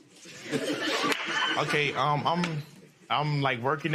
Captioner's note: laughter